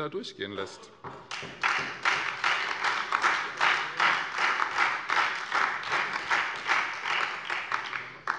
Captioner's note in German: Beifall Freie Demokraten, SPD und DIE LINKE